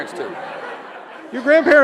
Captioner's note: audience laughs